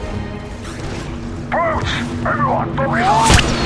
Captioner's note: over Comms